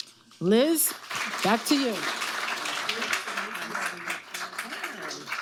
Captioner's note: audience applauding